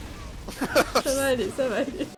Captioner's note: laughs